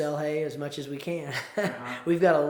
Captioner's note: chuckles